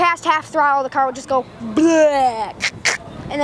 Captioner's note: funny engine noise